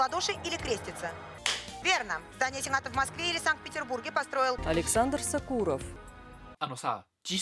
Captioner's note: Hikakin's handclap